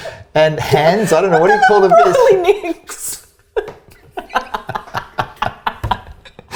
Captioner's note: both laughing